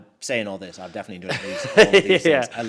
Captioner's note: laughs